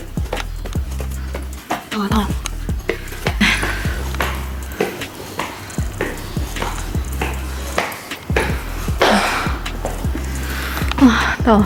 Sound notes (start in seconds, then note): 4.5 beng beng beng; 8.9 panting